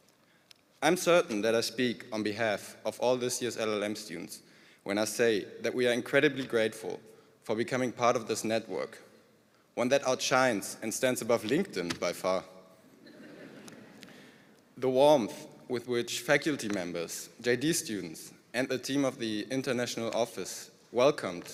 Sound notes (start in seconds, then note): 13.0 laughter